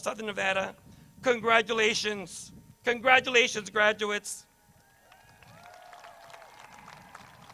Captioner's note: crowd cheers